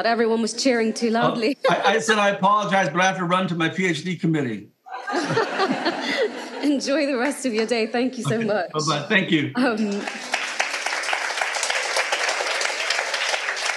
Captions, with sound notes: Everyone was cheering too loudly. - I said I apologise, but I have to run to my PhD committee. (audience laughing) - Enjoy the rest of your day. Thank you so much. - Bye-bye thank you. (audience applauding)